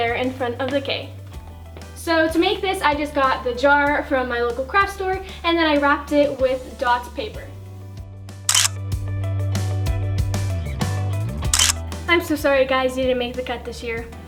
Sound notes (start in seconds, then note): 8.7 camera click